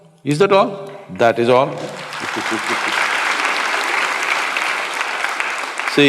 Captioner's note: applause